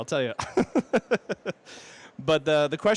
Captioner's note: laughter